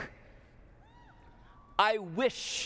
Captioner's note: cheers